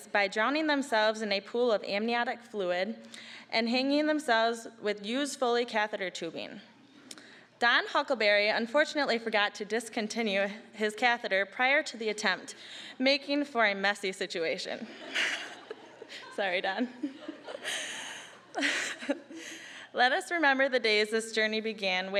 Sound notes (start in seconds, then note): 14.8 audience laughing; 17.9 all laughing